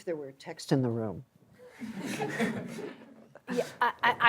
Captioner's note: laughter